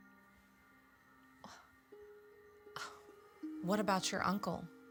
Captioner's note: scoffs